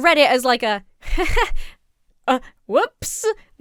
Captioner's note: laughs awkwardly